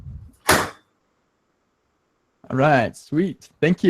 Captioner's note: banging